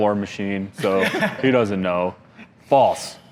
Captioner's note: laughter